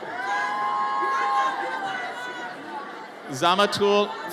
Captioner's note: audience cheers